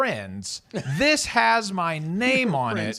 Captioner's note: laughs